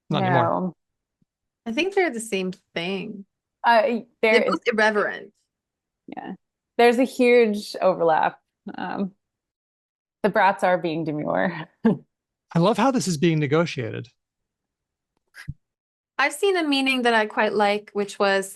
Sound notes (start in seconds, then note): 12.6 laughs